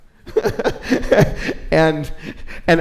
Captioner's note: laughs